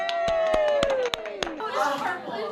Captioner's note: cheering